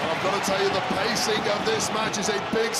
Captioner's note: audience cheering